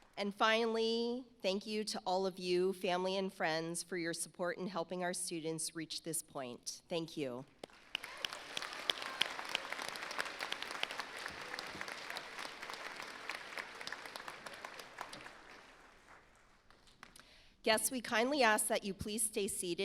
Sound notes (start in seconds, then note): 8.1 audience applauds